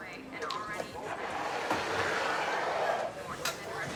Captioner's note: reporter drowned out by glass scraping